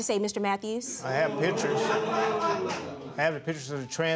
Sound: crowd jeers

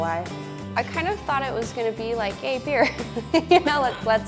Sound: giggles

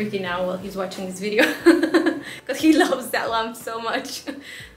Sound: nervous laughs

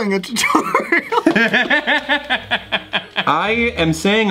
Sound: laughs

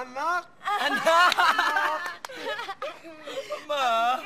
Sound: all laugh

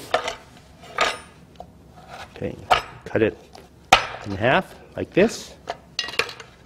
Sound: knife banging on table

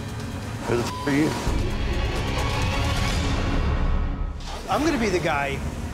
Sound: beep

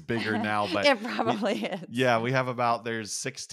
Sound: laugh

